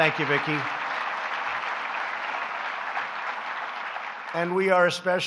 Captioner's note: applause